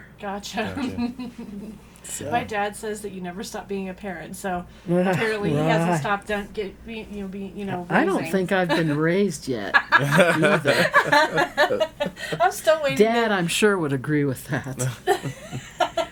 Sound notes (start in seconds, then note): 9.6 all laughing